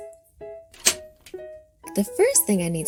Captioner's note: lock clicking